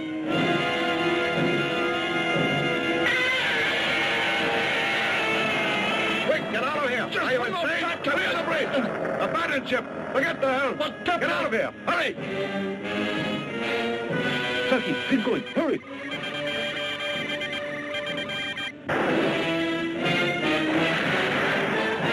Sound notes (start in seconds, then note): 0.1 dramatic music; 3.0 Gammera screeching; 7.5 men shouting; 12.5 dramatic orchestral music; 16.3 machines beeping; 19.2 dramatic music; 21.9 ship thudding